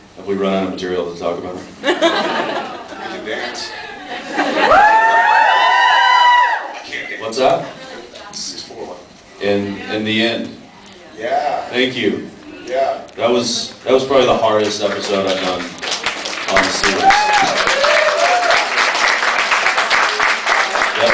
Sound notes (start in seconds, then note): 2.0 laughs; 4.4 cheers; 14.6 applauds; 15.6 cheers, applauds; 19.4 applauds